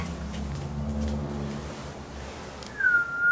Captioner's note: the sound of a car outside